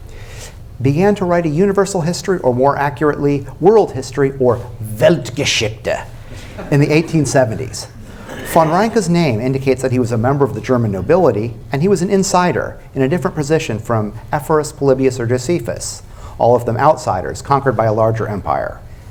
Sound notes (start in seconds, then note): 4.9 said with German accent; 6.4 laughter